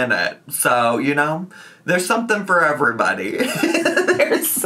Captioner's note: laughs